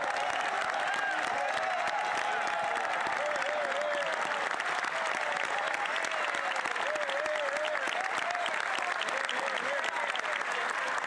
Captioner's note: cheers & Applause